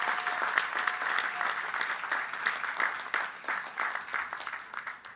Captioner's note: cheers and applause